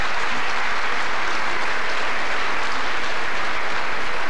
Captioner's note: applause